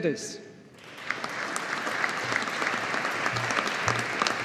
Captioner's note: audience applauding